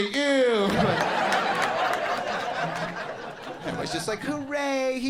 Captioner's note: audience laughing